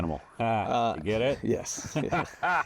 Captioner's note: laughs